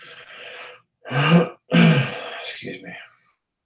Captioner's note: coughs